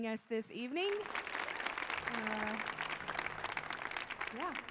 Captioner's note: audience applauding